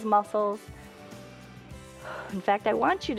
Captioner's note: inhales and exhales